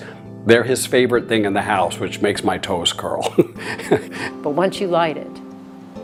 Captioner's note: laughing